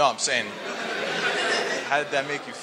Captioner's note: laughing